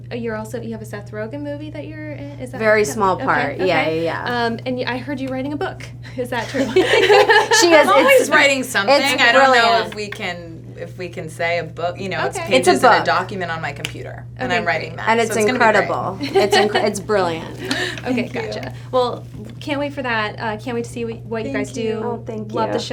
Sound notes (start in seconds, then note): 6.4 laughter